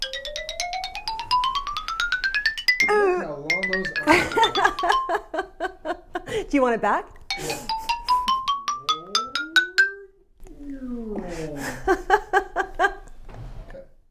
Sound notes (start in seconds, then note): 0.2 accordion sounds; 4.0 laughs